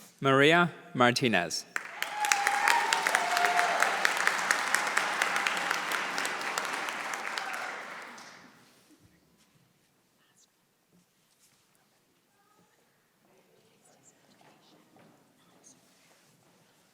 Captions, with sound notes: >> Maria Martinez. >> [APPLAUSE]